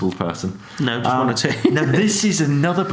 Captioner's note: laughs